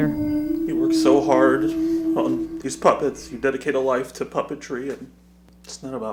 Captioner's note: cries